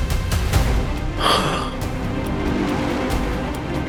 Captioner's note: gasping